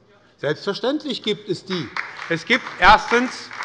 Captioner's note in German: Beifall bei der SPD und der LINKEN